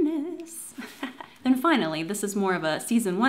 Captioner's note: laughs